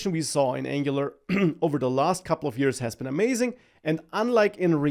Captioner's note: clears throat